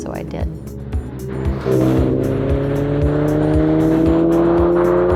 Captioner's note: car drives